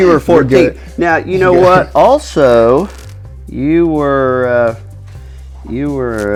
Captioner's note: laughing